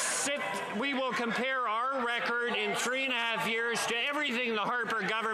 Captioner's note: some Applause